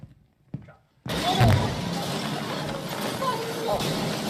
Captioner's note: banging